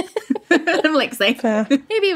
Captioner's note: laughing